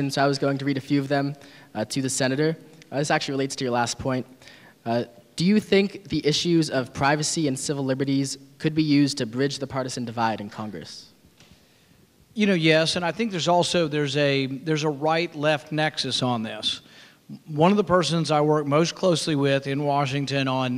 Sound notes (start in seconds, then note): none